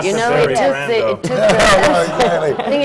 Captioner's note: laughter